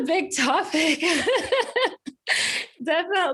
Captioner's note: laughs